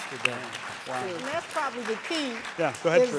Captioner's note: audience applauding